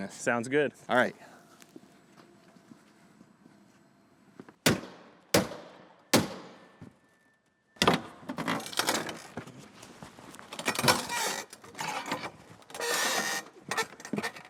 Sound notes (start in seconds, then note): 4.6 halligan slamming; 8.7 door creaking